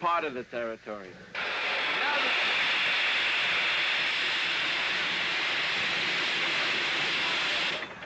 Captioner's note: steam hissing